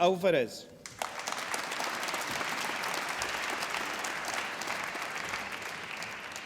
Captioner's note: applause